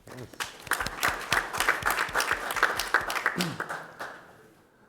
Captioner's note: audience applauding